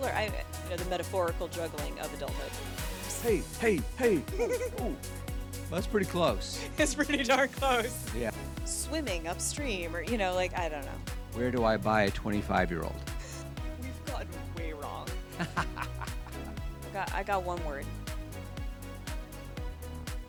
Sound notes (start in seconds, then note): 15.2 laughing